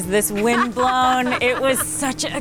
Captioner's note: wife laughing